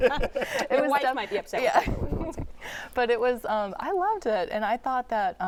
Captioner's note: laughter